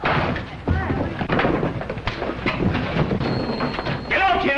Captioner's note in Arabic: اصوات القتال